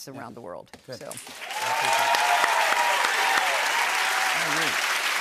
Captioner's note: cheers and applause